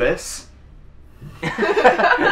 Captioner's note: laughs